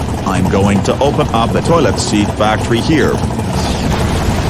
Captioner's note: none